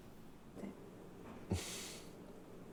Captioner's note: laughing